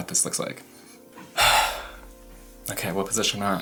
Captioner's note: breathes out heavily